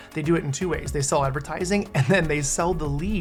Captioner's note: laughing